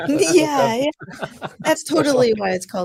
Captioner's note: laughing